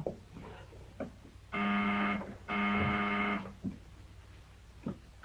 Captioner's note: buzzer blaring